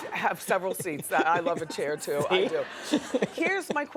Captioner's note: laughs